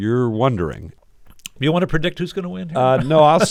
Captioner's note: laughter